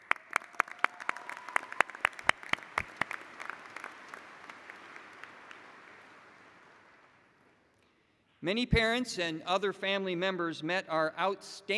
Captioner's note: applause